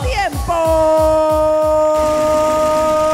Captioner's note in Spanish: Aplausos